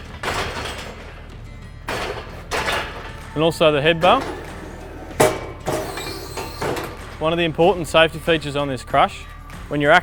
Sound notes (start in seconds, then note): 5.6 hydraulics whirring